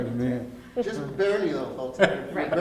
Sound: laughs

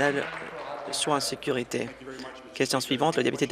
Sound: applause

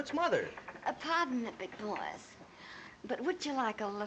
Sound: imitating Mae West

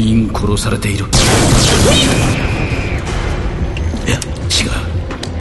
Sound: multiple blaster shots and screams

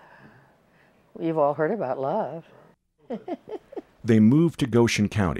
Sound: giggles

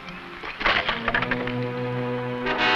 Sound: boot smashing; suspenseful music

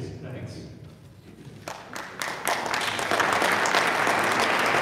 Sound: audience applaud

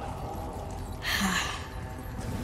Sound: sighs

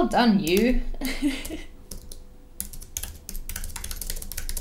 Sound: keyboard clicking

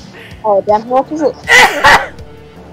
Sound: loud ass cough

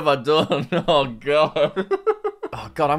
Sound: laughs

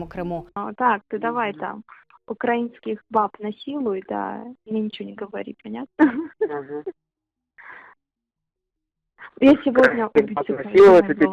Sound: laughs

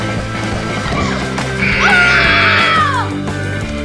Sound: buzzer; surf music

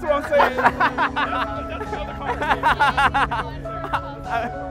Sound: laughs

